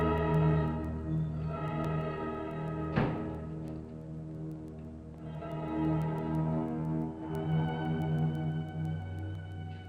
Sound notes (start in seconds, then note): 2.9 door thuds; 3.9 suspenseful music